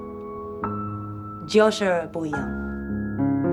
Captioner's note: in mandarin